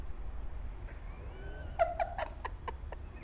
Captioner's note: laughter